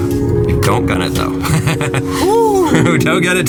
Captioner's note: laughs